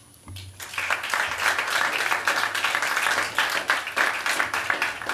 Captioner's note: applause